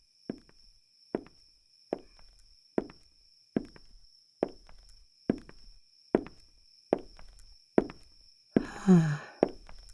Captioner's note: crickets chirp, footsteps approach